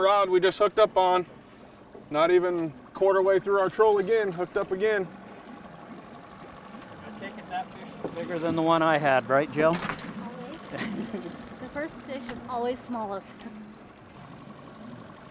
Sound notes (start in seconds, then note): 10.6 chuckling; 15.1 boat engine idling